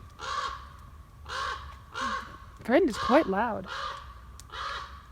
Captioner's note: loud bird; bird